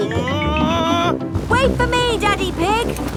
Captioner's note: screaming